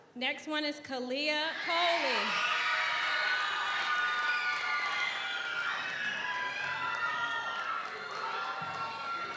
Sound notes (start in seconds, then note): 1.6 audience cheers; 2.6 audience applauds